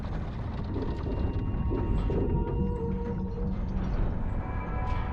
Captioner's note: metal groaning